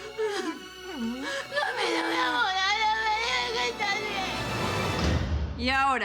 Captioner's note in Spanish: Clara habla entre sollozos